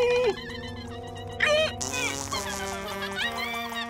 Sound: melodic farting; farting

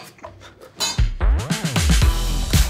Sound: metal clanks; upbeat music

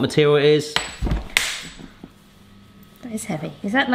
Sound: ring pinging off cabinet

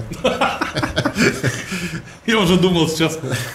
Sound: both laugh

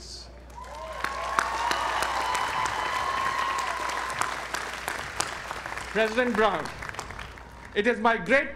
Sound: applause

